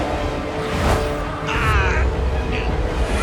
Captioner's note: groaning